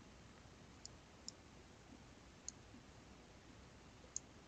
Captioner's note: mouse clicking